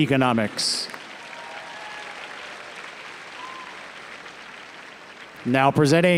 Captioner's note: audience cheers and applauds